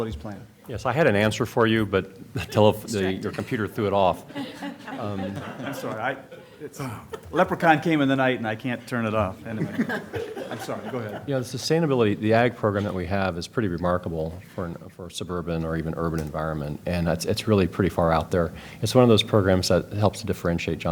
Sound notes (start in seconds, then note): 4.2 laughter; 9.5 laughter